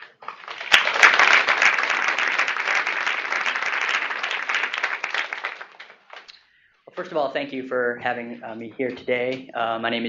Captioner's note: applause